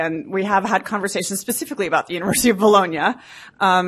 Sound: laughs

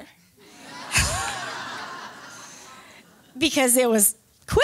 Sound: laughter

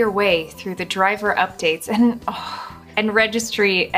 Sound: sighs

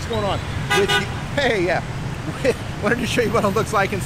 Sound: horns honking; laughs

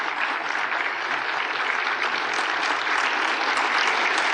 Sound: applause

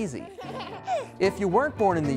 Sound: baby giggling

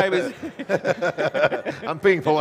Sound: all laughing

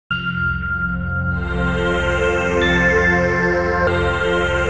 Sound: gently chiming bells

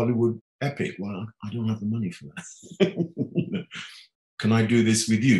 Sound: laughing

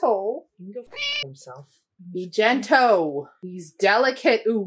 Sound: meow

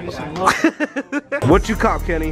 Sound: laughing

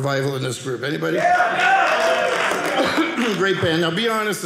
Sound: audience cheering

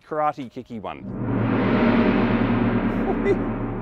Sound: gong chimes

